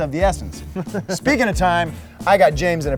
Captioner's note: laughing